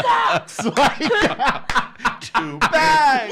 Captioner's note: laughs